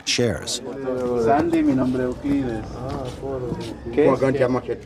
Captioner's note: men speaking in Creole